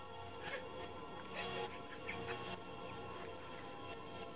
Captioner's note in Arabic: ضحك